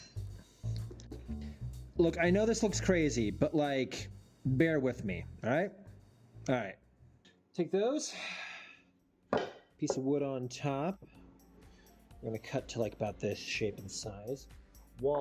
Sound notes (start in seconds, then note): 0.0 ping